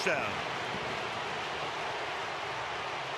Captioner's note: crowd cheering